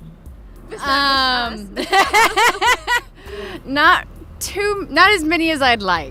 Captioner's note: laughter